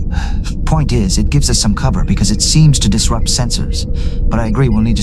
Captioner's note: sighing